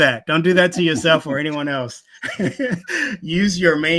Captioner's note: laughing